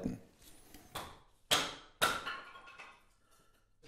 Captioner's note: dull thumps